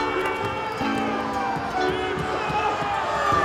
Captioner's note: crowd booing